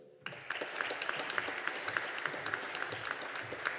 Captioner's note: audience applauding